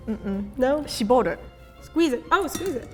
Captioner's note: speaking in Japanese